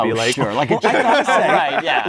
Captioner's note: laughter